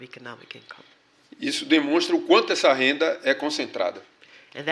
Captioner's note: speaking portuguese